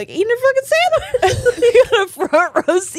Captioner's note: all laughing